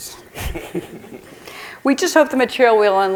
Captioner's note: chuckling